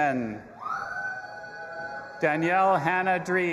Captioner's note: audience applauding and cheering